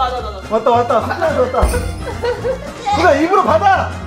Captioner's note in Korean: 챙, 효과음; 고통스러운 신음